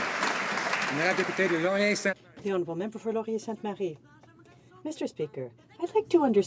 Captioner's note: some Applause